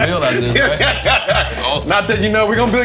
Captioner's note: laughing